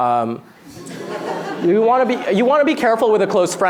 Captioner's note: laughter